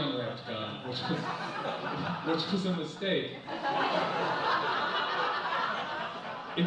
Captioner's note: audience laughs